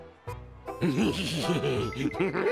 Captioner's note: laughing sinisterly